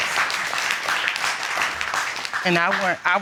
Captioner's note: applause